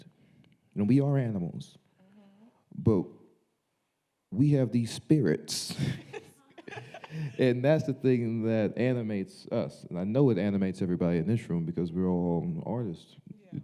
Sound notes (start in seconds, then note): 5.7 chuckles